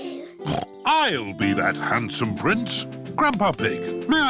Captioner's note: snorts